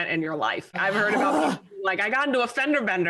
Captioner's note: growls